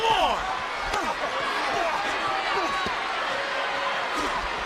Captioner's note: fighters grunt